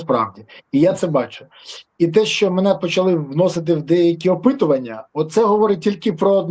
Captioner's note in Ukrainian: сопіння